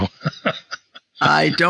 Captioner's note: laughs